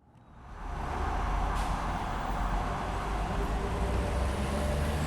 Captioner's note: city traffic humming